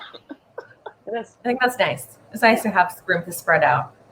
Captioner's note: laughs